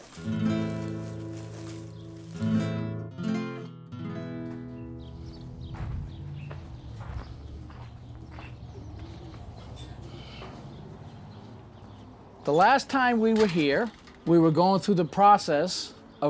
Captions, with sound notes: (classical guitar music) (birds chirping) The last time we were here, we were going through the process